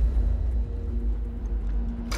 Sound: lock engaging

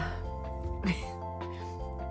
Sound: laugh

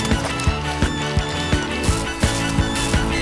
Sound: none

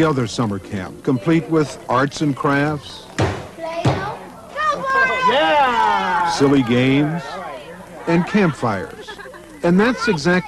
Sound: pounding on table

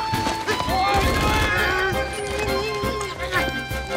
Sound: both grunt

